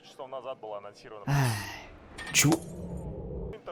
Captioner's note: sigh of relief